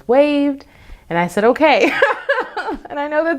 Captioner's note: laughs